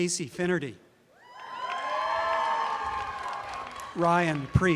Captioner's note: applause and cheering